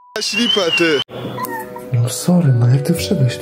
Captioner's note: miau